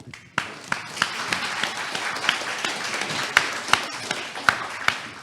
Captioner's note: audience applauding